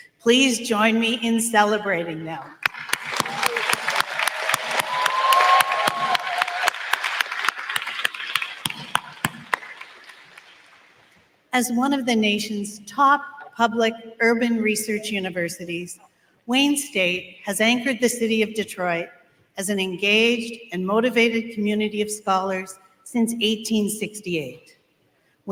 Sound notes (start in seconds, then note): 11.5 applause